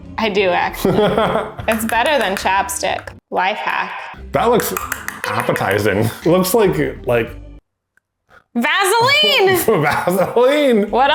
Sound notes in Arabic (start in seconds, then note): 0.8 يضحك; 8.9 يضحك